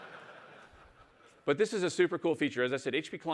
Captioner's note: laughter